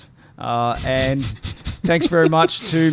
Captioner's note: laughs